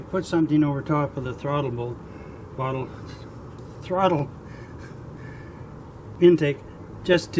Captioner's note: laughs from speech error